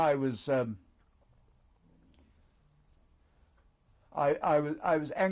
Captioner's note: pauses for 3 seconds